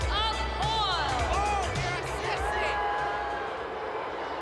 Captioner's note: crowd boos